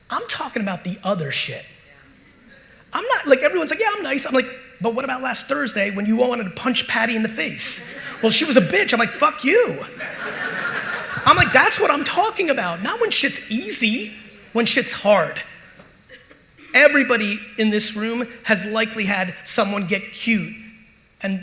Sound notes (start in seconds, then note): 9.8 audience laughing